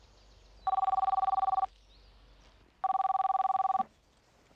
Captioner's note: phone ringing